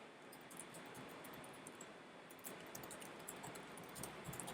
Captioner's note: keystrokes clicking